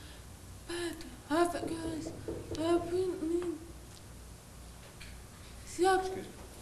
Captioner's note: knocking